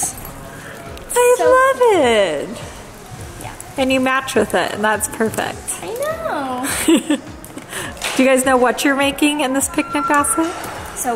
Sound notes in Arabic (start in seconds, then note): 6.6 كريستال يضحك